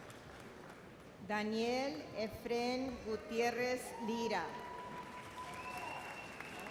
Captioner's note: audience applauds